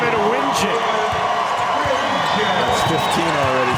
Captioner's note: crowd cheers